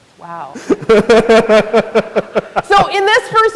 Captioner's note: and audience laughs